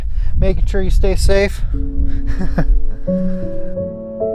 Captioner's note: calm music; laughs